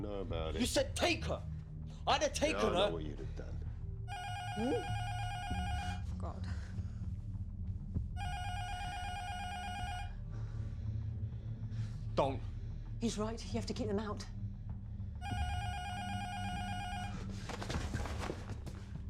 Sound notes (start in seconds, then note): 8.2 intercom buzzer rings; 15.2 intercom buzzer rings